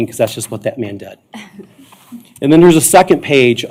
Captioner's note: giggling